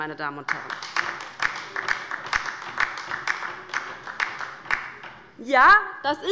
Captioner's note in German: Beifall bei der LINKEN